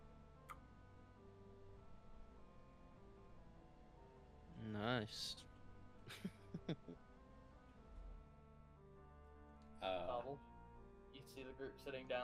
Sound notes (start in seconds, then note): 4.1 laughs